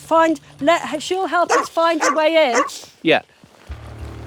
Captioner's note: Amber barking